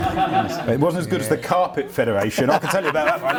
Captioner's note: laughs